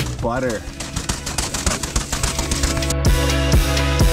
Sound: bike rattles loudly; upbeat lo-fi music continues

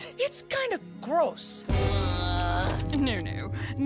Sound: groaning

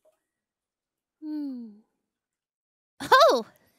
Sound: sighs

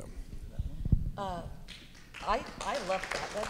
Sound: audience claps

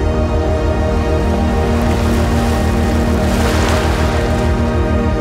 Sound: waves crashing

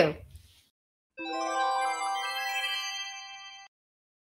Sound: gentle chiming

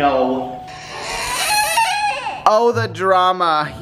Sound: crying

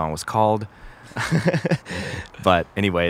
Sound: both laugh

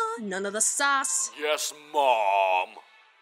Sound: mockingly

